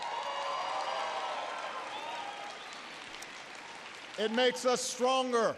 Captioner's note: applause